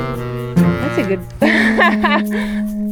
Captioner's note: laughs